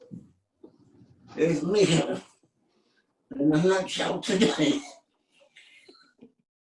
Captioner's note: laughs